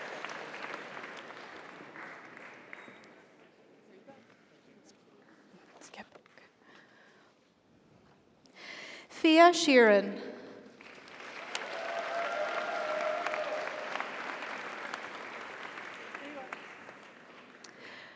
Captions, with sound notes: (audience applauds) (audience cheers) Fiadh Sheeran. (audience applauds) (audience cheers)